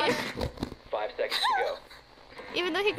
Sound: laughs

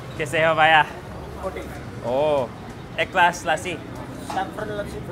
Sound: speaks in foreign language

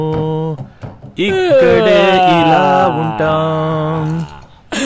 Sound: crying

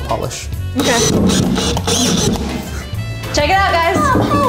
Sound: drill whirring

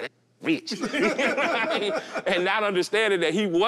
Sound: all laugh

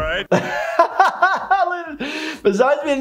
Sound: laughing

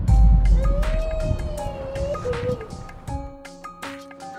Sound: crying

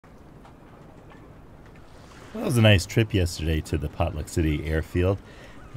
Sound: waves lapping, sea birds calling

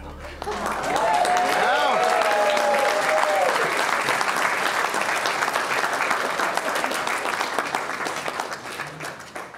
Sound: clapping, cheering

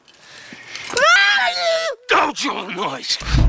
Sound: boy begins to scream

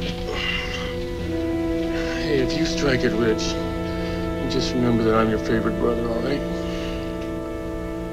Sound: sleepily

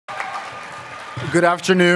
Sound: applause

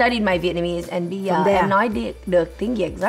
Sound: in Vietnamese

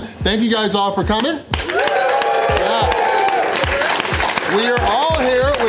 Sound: crowd clapping and cheering

